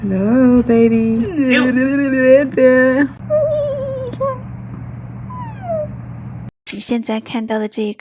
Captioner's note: various childish sounds